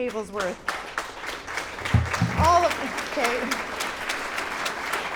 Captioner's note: clapping